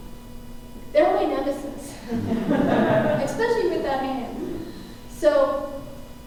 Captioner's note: laughter